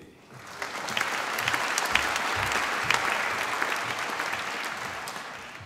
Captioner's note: applause